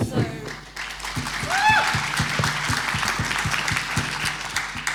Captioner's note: applause and cheering